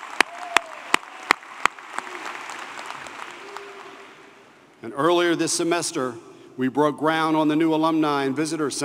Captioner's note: applause